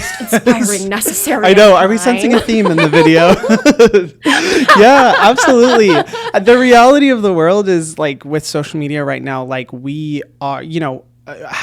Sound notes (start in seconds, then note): 0.0 laughs; 3.7 both laughing